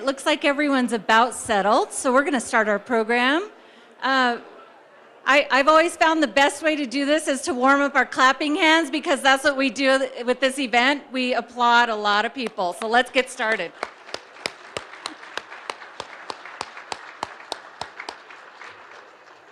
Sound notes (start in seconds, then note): 13.4 audience applauding